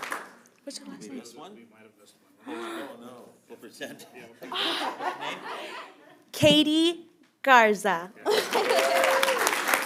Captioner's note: applause